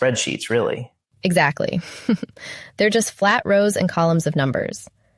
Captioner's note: chuckles